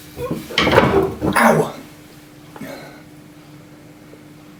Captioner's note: struggling sounds